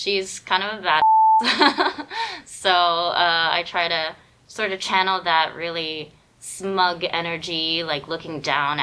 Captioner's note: laughs